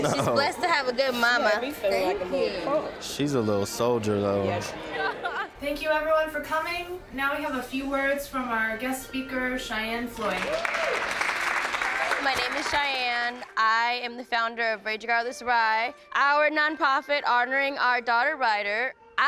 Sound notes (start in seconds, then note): 10.2 group claps and cheers